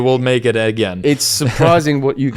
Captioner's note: laughs